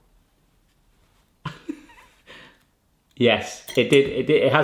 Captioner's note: laughs